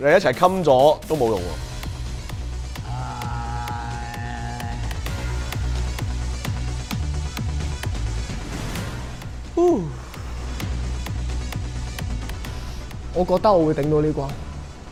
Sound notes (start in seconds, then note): 2.8 frustrated Sound